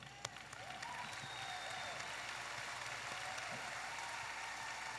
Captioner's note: audience applauding